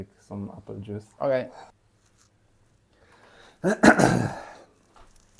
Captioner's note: clears throat